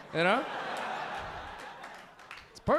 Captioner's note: audience laughing